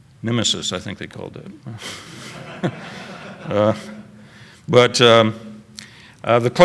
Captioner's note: laughter